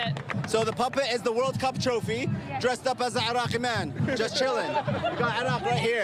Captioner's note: applause